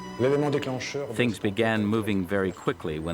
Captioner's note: speaks in foreign language